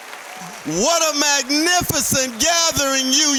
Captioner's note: applause